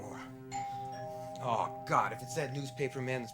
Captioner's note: doorbell rings